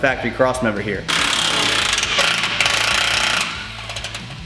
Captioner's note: drill cranking